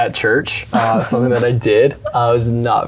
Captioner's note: chuckling